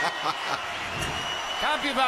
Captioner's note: bell rings; laughter